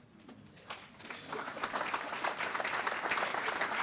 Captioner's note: applause